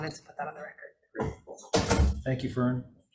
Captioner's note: chair clinking